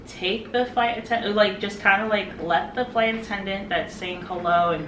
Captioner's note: none